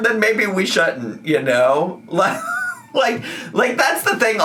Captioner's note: laughing